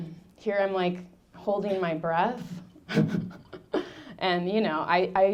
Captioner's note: laughing